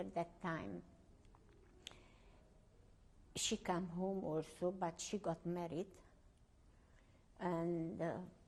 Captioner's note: pauses for 3 seconds